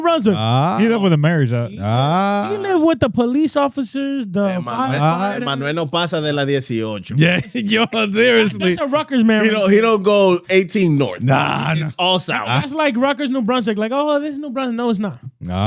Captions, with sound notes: He live with the marries out. He live with the police officers. (Speaking In Foreign Language) That's a Rutgers marriage. He don't go 18 North. It's all South. That's like Rutgers, New Brunswick. Like, "Oh, this is New Brunswick." No, it's not.